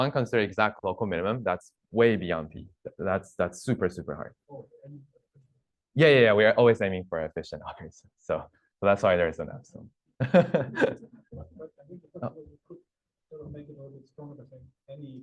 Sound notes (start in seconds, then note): 10.2 laughs